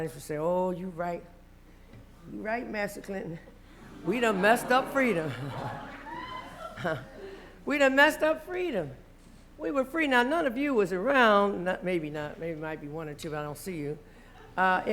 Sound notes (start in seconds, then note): 5.6 laughter